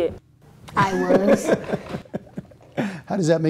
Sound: laughter

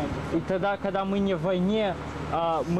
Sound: russian speech

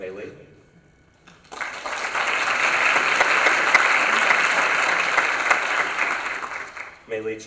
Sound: applause

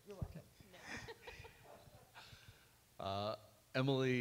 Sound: laughs

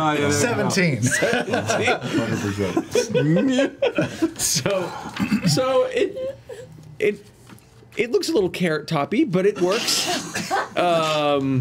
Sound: laughs

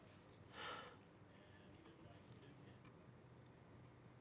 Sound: Ezold sighs

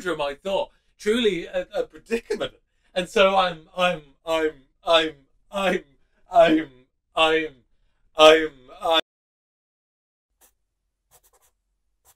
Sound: sound of pencil scratching onto paper

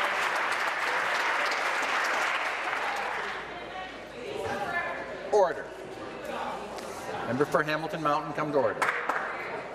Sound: applause

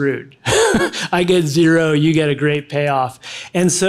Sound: laughs

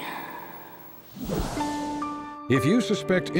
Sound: dramatic sound

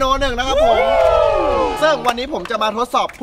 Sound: cheering

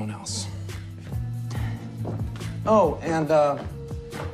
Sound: sighs

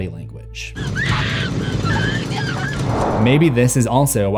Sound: Tina screams

